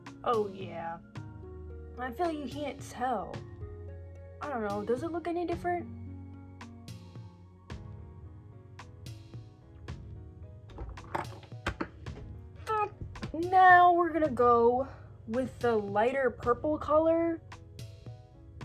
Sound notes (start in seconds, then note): 10.6 rattling; 12.6 cursing